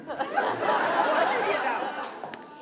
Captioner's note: laughter